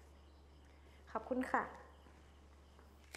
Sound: speaking thai

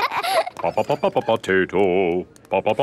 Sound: children laughing; sing-song voice

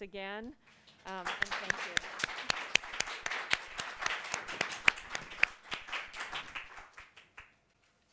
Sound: applause

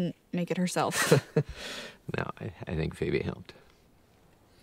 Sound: laughs

